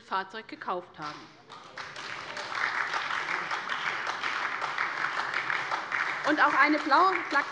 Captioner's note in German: Beifall bei der SPD